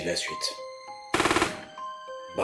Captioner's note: burst of shots